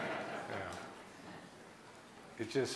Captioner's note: laughing